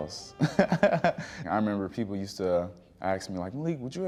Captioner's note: chuckling